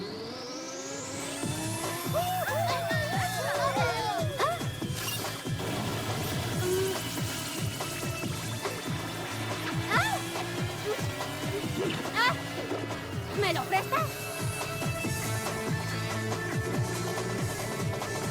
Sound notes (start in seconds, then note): 1.7 crowd cheering; 4.5 screams